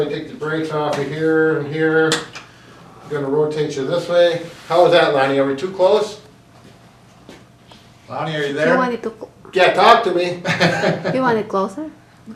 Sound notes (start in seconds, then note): 10.4 laughs